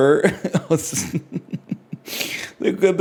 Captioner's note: laughs